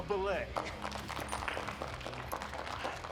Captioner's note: applause